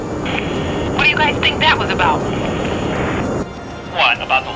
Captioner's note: voiceover